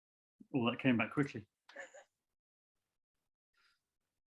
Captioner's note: chuckles